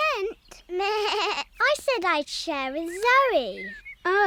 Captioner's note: bleats